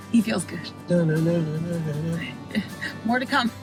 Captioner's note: chuckles